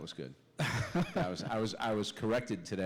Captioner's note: laughter